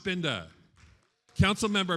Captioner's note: attendees applauding